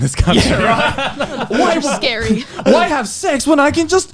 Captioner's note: laughs